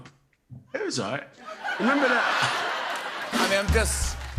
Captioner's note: laughter